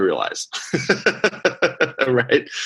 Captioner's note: laughing